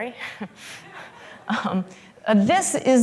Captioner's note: laughter